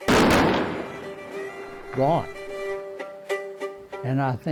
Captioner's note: exploding